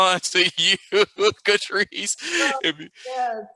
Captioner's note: laughs